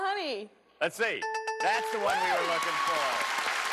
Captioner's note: dings; applause